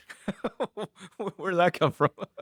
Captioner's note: laughs